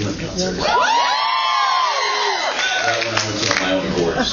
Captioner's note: cheers